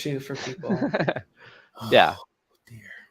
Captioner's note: laughter